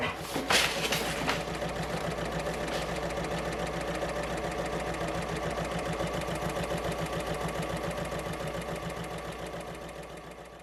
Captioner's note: sewing Machine Sounds